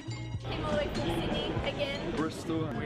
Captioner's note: voiceover